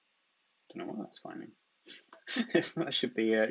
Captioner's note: chuckles